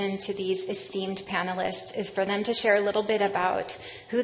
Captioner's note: none